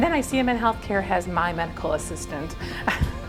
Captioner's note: chuckles